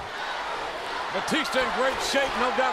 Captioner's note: audience chanting